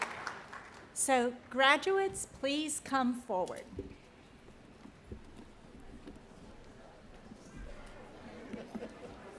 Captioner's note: applause